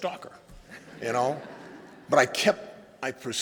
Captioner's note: laughter